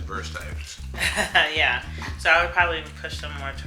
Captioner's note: laughs